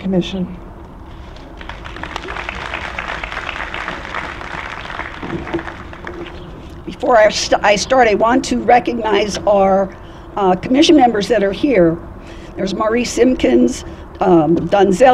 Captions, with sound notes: commission. >>:[(APPLAUSE)] >>:Before I start, I want to recognize our commission members that are here. There's Maurice Simpkins, Donzella,